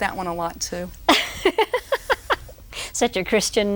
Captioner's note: roaring laughter